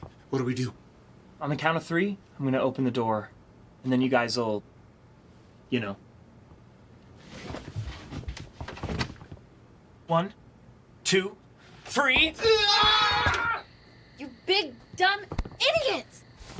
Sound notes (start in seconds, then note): 12.3 Chris and Paul scream